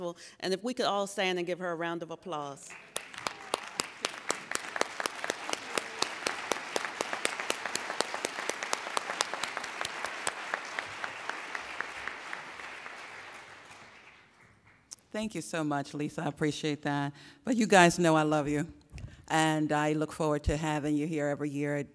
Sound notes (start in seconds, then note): 2.6 applauding